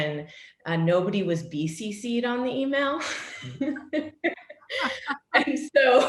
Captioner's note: laughs